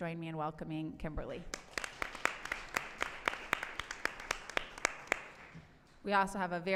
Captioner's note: applause